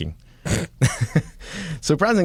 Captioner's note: laughter